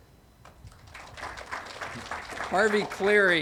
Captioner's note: audience applauding